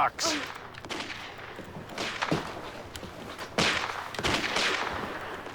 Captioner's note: video game Gunshots